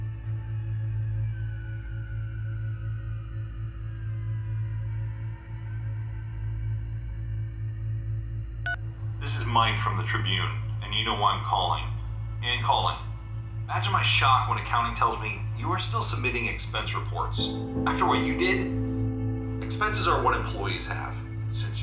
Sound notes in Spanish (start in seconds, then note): 4.7 la música incómoda continúa; 8.8 teléfono celular suena